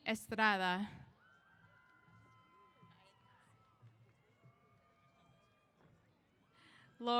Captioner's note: cheers